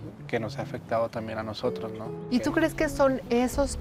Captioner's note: both speaking Spanish